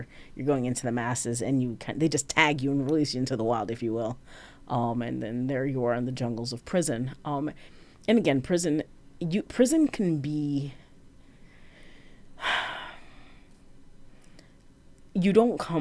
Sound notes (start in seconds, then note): 10.3 sigh